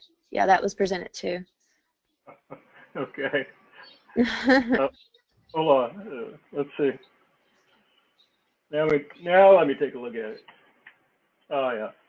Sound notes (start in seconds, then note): 2.3 laugh